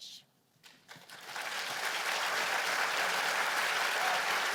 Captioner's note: applause